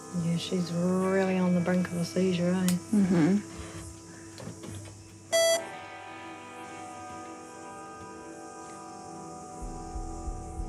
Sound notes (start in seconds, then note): 5.3 beep!; 7.2 sombre music